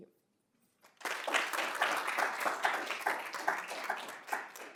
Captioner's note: applause